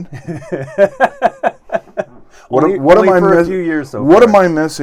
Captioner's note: laughs loudly